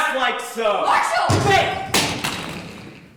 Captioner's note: gunshot